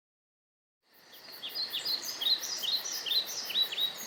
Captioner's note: birds whistling in the forest